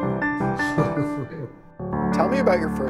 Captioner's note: Ed laughing